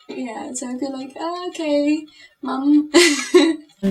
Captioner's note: laugh